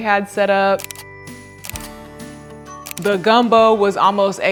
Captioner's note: camera snapping